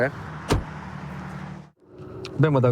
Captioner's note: door bangs